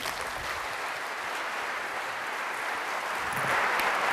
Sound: applause

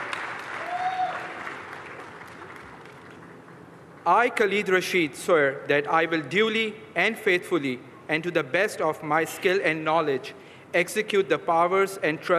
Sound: applause

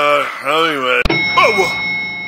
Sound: elevator ding

